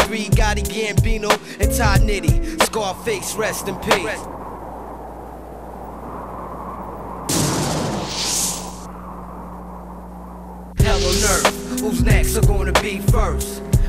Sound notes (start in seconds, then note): 4.4 wind howling; 7.4 thunder crash